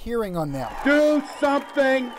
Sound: applause

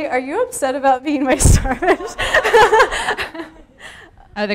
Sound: laughs hysterically

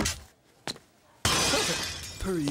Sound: <i>glass shattering</i>

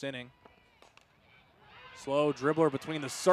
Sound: ball hitting bat

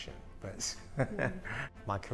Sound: laughs

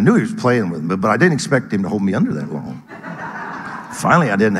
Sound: audience laughing

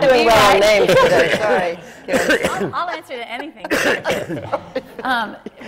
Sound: laughter

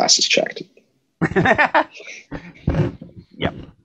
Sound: laughing

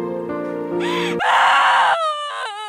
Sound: crying in screams

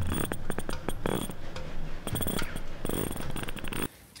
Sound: zip noise

